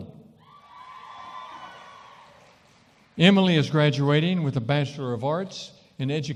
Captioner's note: cheering & applause